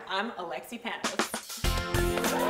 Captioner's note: cheering and applause